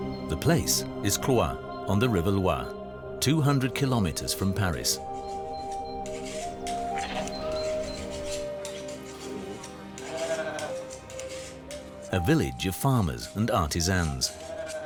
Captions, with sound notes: The place is Cloyes, on the River Loire, 200 kilometres from Paris. [sheep bleating] A village of farmers and artisans.